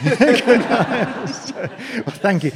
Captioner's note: audience laughing